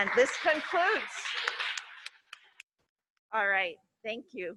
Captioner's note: audience clapping